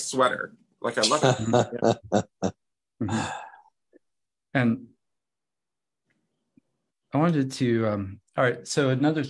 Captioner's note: laughs